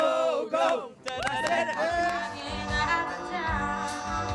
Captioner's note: crowd cheers